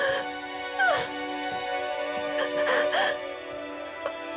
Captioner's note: sobbing; gentle music